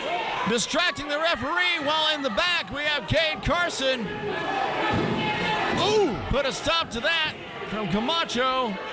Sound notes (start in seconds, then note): 4.3 men arguing loudly